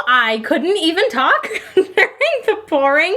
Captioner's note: laughs